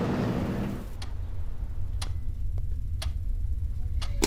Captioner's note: ticking Clock